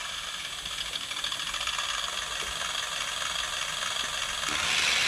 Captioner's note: engine sound